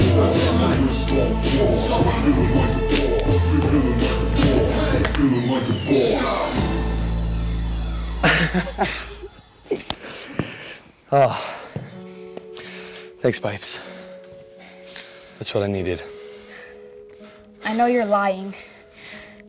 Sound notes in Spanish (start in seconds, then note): 8.2 James y Piper ríen